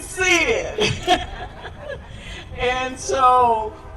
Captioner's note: laughter